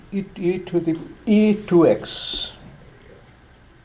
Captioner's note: voiceover